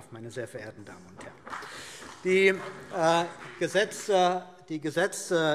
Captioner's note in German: Beifall CDU und BÜNDNIS 90/DIE GRÜNEN